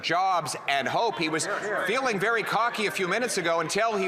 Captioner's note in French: voix de l'interprète